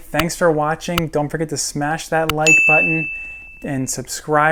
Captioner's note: bell ringing